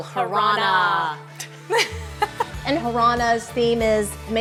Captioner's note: laugh